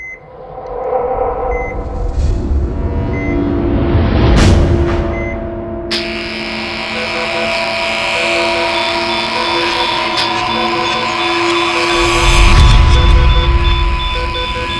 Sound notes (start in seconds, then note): 0.2 dramatic, tense music; 5.9 buzzing; 6.4 dramatic, tense music